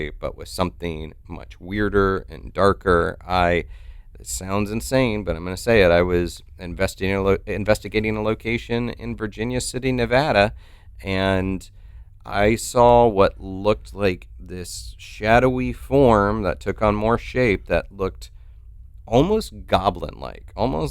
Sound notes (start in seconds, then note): none